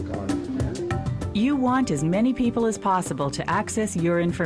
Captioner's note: voiceover